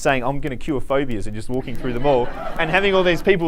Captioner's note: students laughing